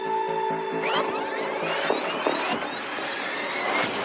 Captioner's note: tapape screeceching